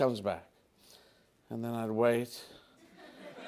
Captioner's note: laughter